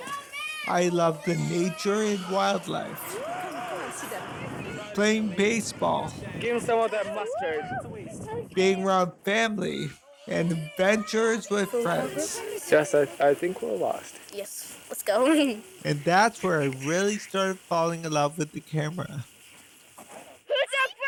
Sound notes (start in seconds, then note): 2.9 people talking in background; 16.4 giggles